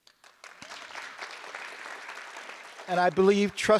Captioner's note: audience applause